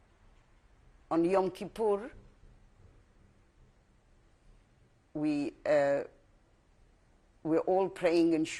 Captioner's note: pauses for 3 seconds